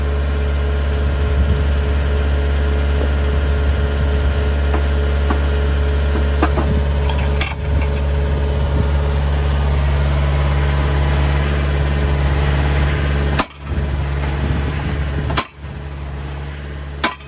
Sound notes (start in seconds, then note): 0.1 machinery humming; 4.0 machine clattering